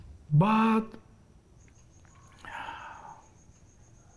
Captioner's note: sighs